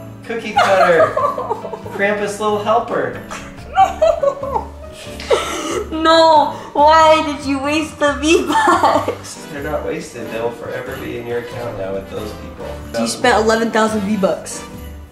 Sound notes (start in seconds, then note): 3.2 laughing